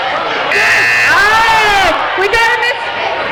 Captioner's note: buzzing